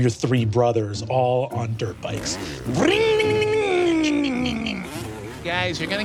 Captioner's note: mimics engines revving